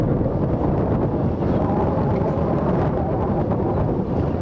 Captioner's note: wind gusts loudly